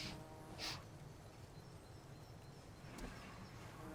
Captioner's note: fly buzzing; Claire sniffing